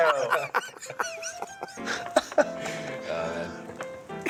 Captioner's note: all laughing